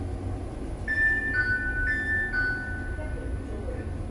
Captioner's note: ding-dong, ding-dong